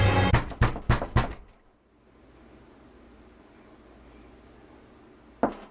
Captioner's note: heavy door knocking